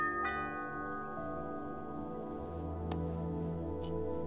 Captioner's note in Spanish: Timbre de la puerta